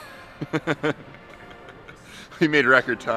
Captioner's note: laughs